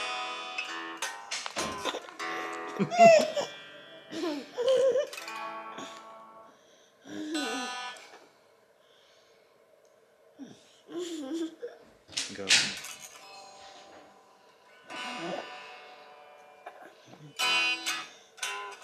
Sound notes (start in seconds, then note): 0.0 brassy guitar music; 2.4 chuckling; 10.9 laughs inaudibly; 15.3 guitar strings creaks